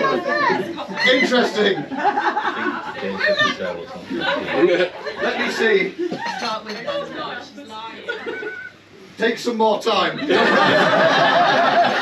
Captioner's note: laughter